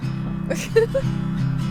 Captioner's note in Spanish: risas